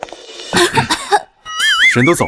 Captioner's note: cough, cough